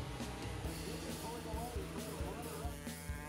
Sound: engine sounds

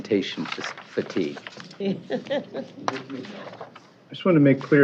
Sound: laughter

